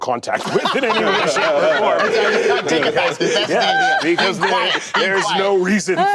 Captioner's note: laughter